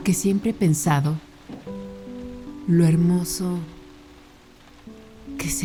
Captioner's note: speaking in a foreign language